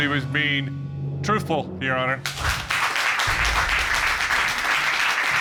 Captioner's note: audience applauds